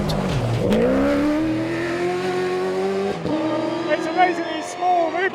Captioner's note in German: Motor heult auf